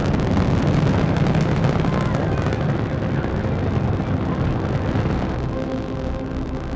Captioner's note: rocket roaring